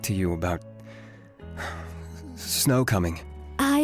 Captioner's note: nervous breath